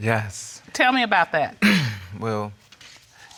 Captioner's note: clears throat